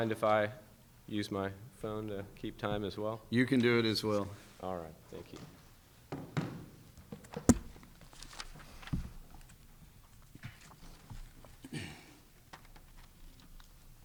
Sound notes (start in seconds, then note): 7.2 pages shuffling; 7.3 folder thudding; 7.4 snapping